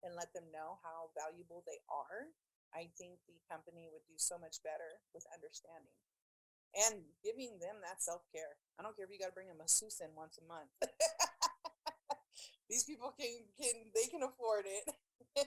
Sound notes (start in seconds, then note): 10.8 laughing